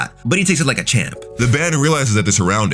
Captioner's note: air whooshing